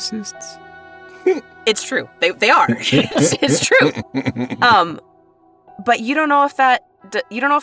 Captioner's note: chuckles